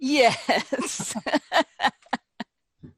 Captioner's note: laughs